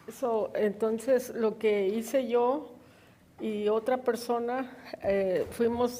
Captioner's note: woman speaks in foreign language